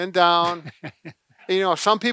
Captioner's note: laughs